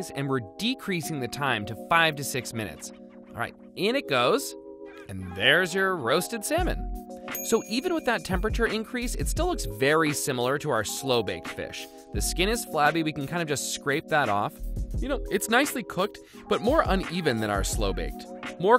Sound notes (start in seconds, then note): 7.3 bell dings